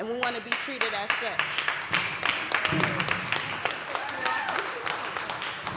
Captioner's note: applause